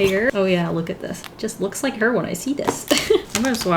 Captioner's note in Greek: Γέλια